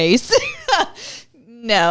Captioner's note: laughter